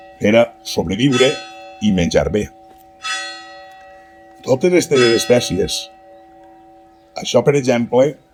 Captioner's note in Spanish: campana